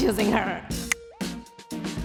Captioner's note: click; upbeat music